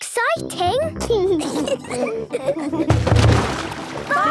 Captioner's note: giggling